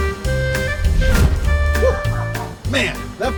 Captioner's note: air whooshing